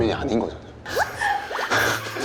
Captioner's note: gasp